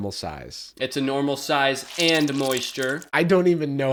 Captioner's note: squelching